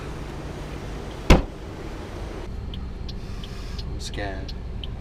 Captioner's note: banging car boot